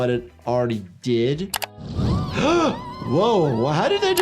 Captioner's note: doctor gasps